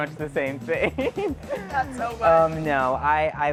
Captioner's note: laughs